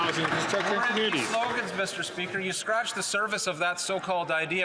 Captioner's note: some Applause